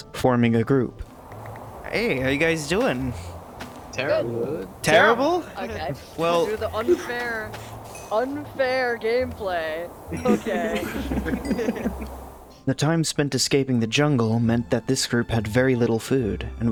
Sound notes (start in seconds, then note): 10.1 laughter